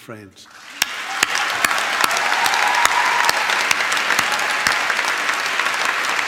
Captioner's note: applauds and cheers